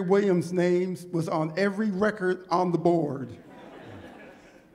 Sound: laughter

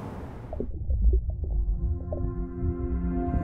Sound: water trickling; upbeat ambient music

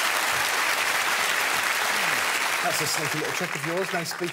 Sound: audience clapping

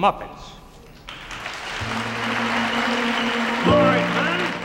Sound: audience applauds

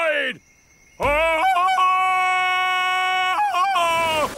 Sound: ululating

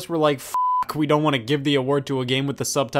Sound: beep

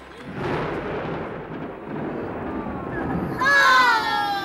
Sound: thunder crashing

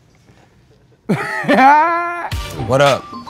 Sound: laugh

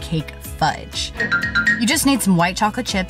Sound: twinkles

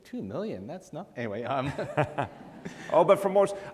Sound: laughs

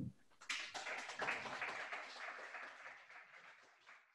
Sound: audience clapping

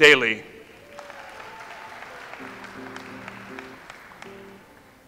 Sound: audience applauds

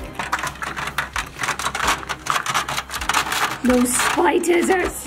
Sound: container rattling

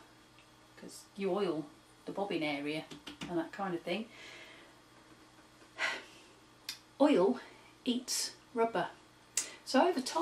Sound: sigh

